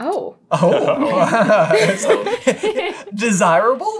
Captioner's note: laughter